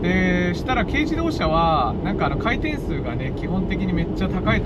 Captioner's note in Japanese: エンジン